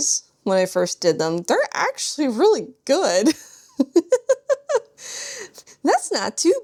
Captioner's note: laughs